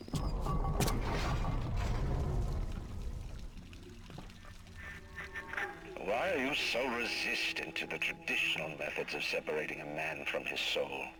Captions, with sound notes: (thunder rumbling) (chuckling) Why are you so resistant to the traditional methods of separating a man from his soul?